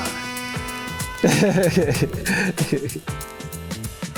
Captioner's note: laughs